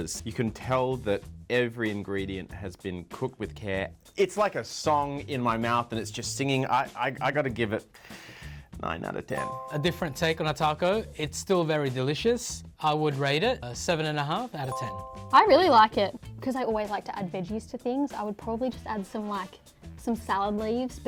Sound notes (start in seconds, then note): 9.3 chime; 14.7 chime